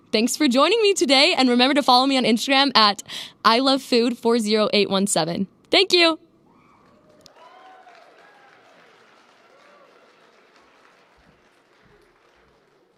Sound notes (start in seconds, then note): 6.8 applause